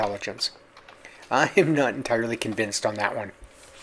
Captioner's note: chuckling